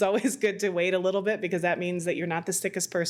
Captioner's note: laughs